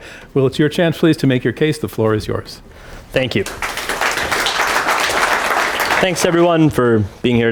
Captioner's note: applause